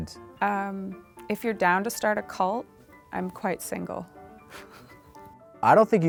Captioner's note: laughs